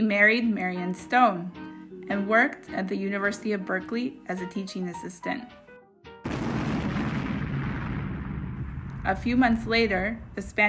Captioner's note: explosion